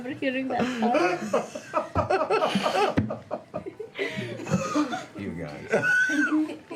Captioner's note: laughter